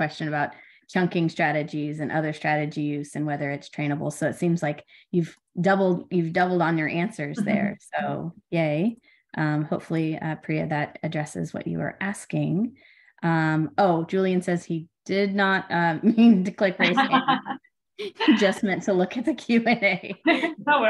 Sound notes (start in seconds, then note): 16.8 laughter